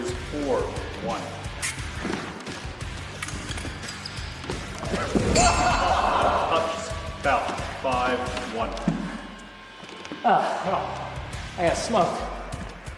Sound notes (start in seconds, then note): 5.6 blade sound effect, laughter